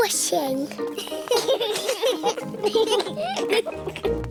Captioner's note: children giggling